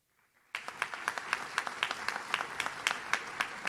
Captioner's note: audience claps